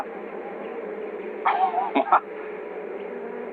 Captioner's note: laughs